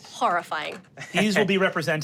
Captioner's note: laughs